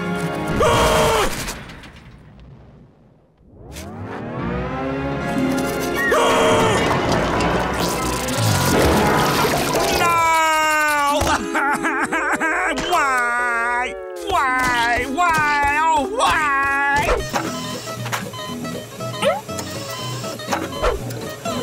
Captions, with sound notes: [screaming] [screaming] No! [crying] Why?! Why? Why? Oh, why? [beeping]